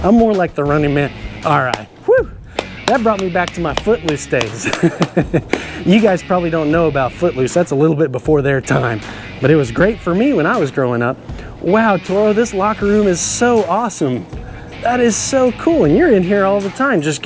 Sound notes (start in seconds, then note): 4.4 chuckles